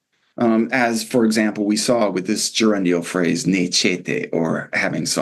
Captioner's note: non-english